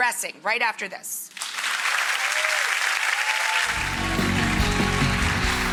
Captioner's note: audience applauds